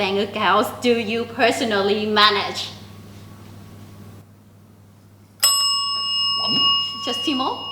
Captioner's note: rings the bell